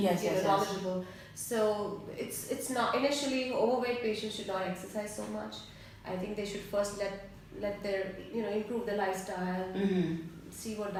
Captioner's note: hmm hm